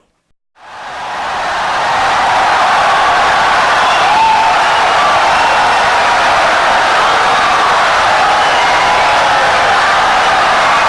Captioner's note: wild applause and cheering for 17 seconds